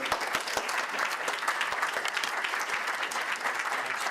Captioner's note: audience applause